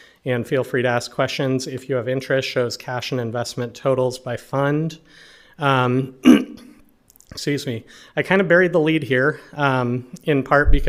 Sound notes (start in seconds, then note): 6.2 clears throat